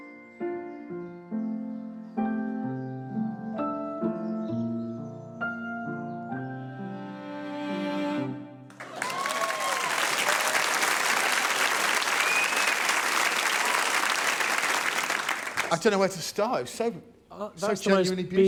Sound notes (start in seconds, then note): 0.0 piano music plays; 10.7 applause